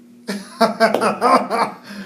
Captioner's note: laughing